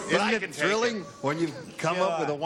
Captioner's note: booing